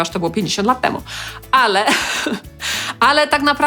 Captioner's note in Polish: śmiech